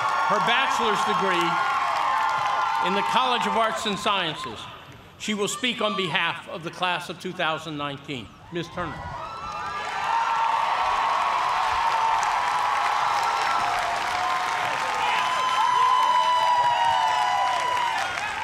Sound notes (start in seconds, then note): 0.0 cheers and applause; 10.6 cheers and applause